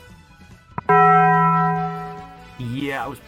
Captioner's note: bong